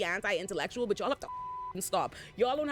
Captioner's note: beep